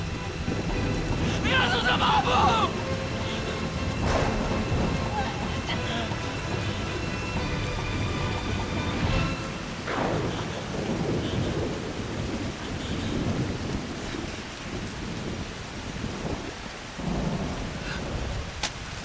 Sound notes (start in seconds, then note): 3.7 thunder crashing